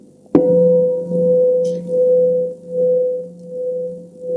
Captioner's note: bell